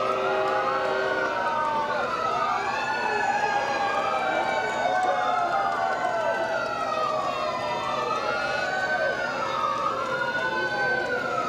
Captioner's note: sirens